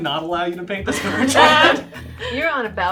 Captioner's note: laughing